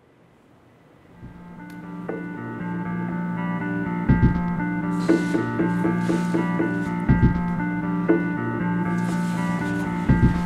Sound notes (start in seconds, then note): 6.6 tennis shoes scuffs